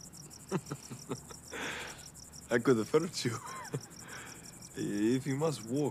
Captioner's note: Radovan laughs